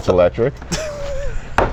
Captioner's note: laughs